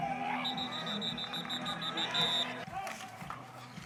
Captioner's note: whistle blowing